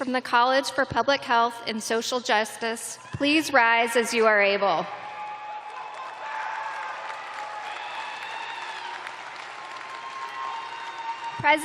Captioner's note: cheers and applause